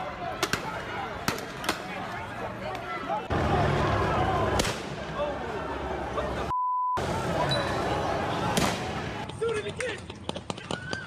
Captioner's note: gunfire